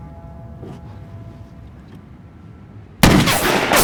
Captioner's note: gunshots